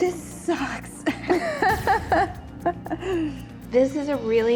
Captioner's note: both laughing